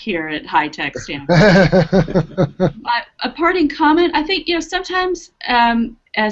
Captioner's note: laughter